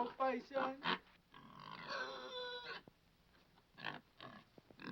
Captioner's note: Paisan squeals